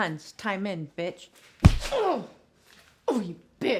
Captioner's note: Alex groaning